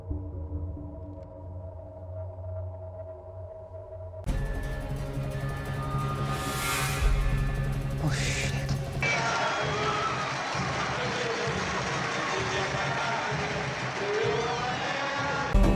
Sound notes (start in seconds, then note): 4.2 beeping; 9.0 singing, Latin music, crowd cheering